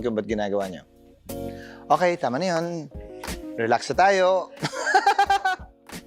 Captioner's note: laughs